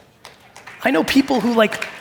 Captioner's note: audience applaud